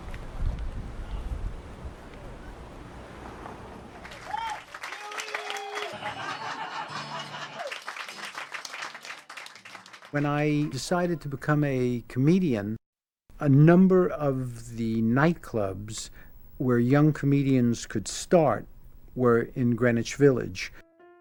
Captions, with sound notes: (audience applauding) (audience laughing) - When I decided to become a comedian, a number of the nightclubs where young comedians could start were in Greenwich Village.